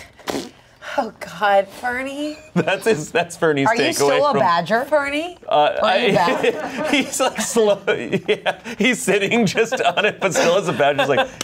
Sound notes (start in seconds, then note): 6.1 laughs